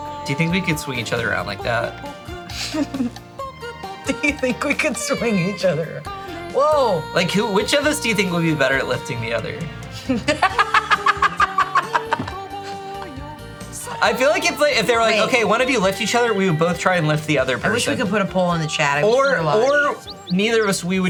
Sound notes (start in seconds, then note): 0.0 upbeat goofy music; 9.9 laughing; 10.0 upbeat goofy music